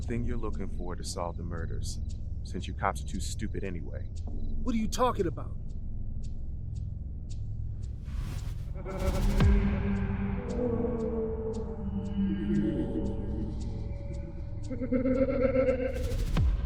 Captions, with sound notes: - It's something you're looking for to solve the murders since you cops are too stupid anyway. - What are you talking about? (laughter echoing)